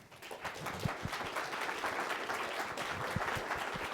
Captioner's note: applause